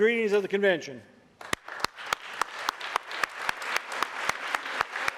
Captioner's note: audience applauding